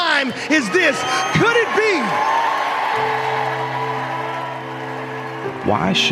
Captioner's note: audience cheering